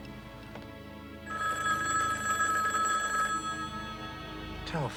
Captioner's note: telephone rings